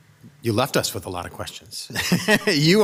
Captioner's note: chuckles